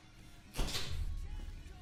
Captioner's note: wood cracking